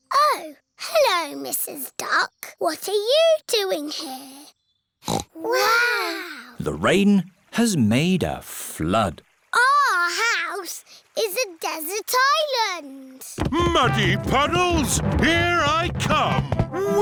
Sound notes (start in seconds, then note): 5.0 peppa snorts